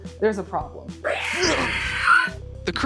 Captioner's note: monster Screeches